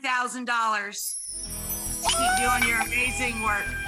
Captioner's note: cheers